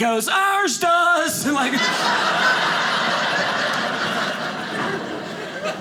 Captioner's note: audience laughing